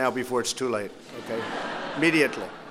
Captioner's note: laughter